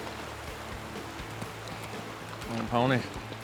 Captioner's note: stream gently rushing